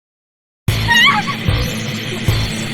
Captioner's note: screamed